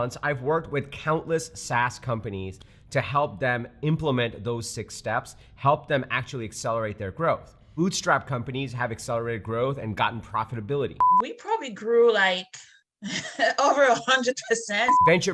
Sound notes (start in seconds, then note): 11.0 beeping; 13.0 laughing